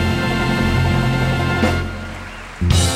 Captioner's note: audience applauding; upbeat instrumental music